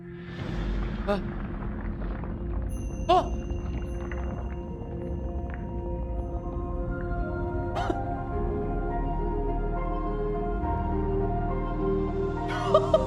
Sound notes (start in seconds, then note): 0.2 gasps; 0.2 ground shifts; 2.4 music swells; 3.1 gasps again